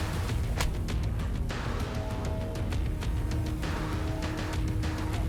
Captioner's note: blow thudding